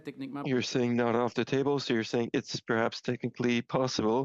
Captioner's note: speaking French